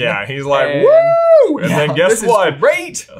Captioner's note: exclaims